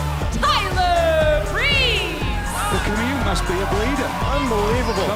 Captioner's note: crowd cheering